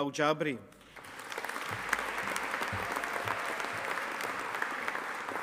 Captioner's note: audience applauding